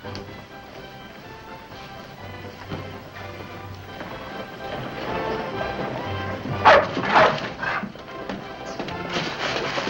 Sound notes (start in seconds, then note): 0.2 upbeat music; 6.4 dogs barking